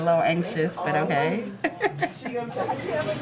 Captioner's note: laughter